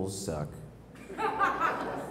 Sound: laugh

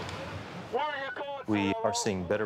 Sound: screaming

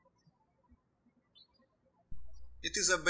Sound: birds chirping

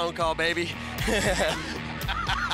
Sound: laughs

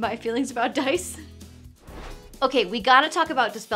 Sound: air whooshing

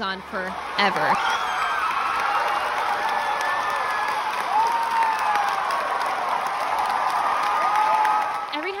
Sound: cheering and clapping

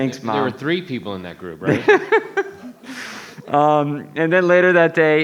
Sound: laughing

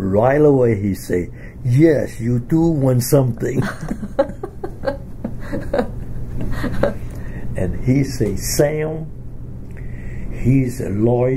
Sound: both laugh

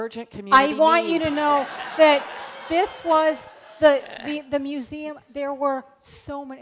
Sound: amidst laughter from audience

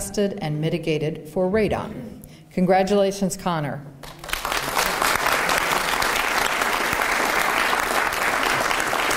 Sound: applause

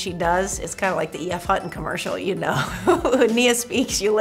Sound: chuckles

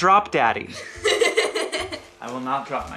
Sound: laughing

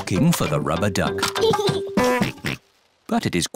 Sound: giggles and oinks

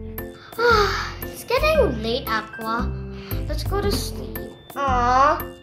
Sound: yawn

